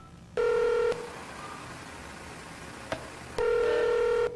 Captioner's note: electronic beeping; telephone ringing